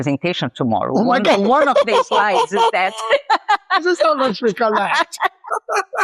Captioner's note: laughs